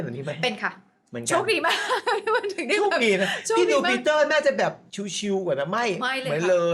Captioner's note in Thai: เสียงหัวเราะ